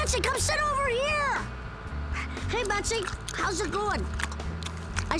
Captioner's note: laughs